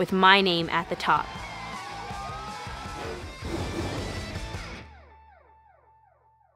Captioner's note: cheering; rock music